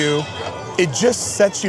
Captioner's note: bell clanging